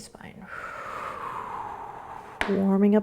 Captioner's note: exhaling